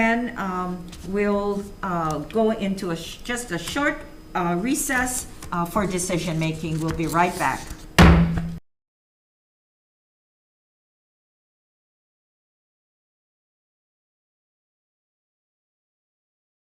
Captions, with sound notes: Then we'll go into just a short recess for decision-making. We'll be right back. (gavel slams the block)